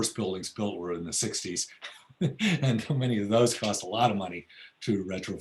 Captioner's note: laughs